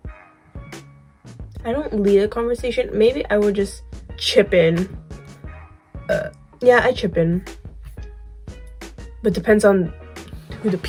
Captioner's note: burp